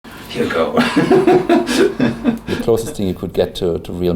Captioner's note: laughter